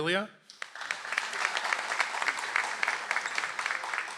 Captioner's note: audience applauds